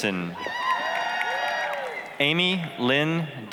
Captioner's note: applause, cheering